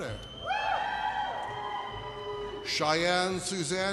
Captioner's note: audience cheers